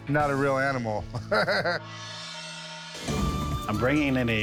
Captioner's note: laughs